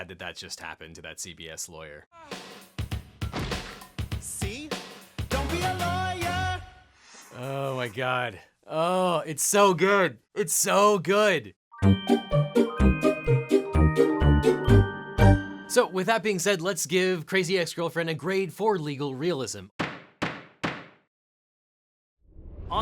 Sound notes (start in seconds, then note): 2.4 upbeat music; 3.2 body thuds; 11.7 playful music; 19.8 gavel bangs